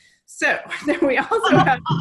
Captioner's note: laughs